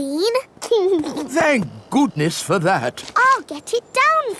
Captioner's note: giggles